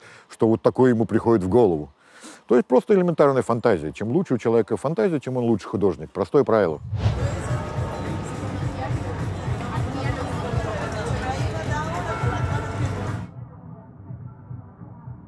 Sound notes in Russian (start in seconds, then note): 6.8 шум улицы, голоса